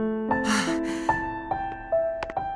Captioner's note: relieved sigh